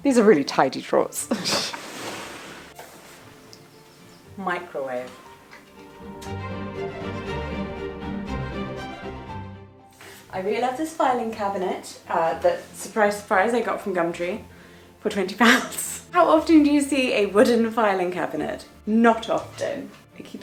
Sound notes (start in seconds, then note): 1.5 laughing; 6.0 lively string music